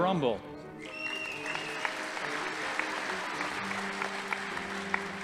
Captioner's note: audience applauding